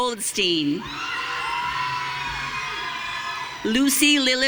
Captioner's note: audience cheering